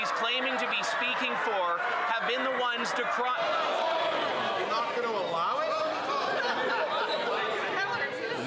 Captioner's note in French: voix de l'interprète